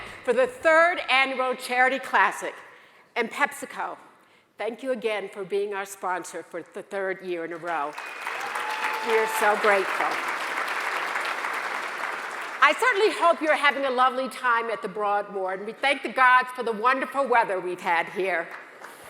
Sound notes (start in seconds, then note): 7.9 audience applauds